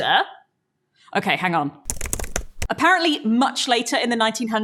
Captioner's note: frantic typing